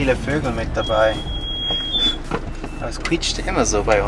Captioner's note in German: Lautes Quietschen